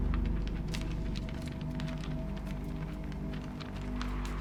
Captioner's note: paper rustling